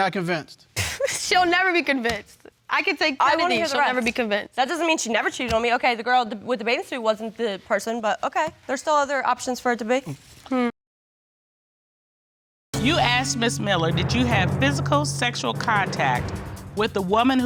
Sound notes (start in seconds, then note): 1.7 scoffs